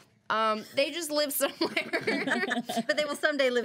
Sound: girls laughing

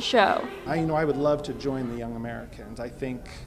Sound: voice of interpreter

